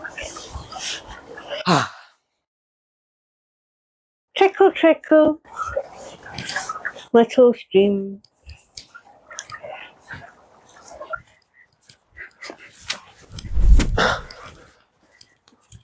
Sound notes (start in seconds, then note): 8.3 running water; 13.4 woosh from kick